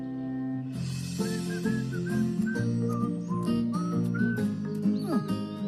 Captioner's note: gentle orchestral music; Nature Cat whistling